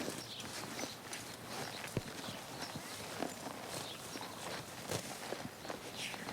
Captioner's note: horses hooves crunch on soil